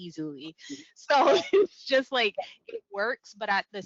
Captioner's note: laughing